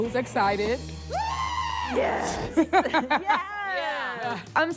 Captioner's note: contestant screams